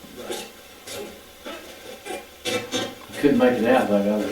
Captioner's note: static playback transmitting